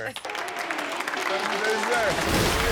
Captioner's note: audience cheering and clapping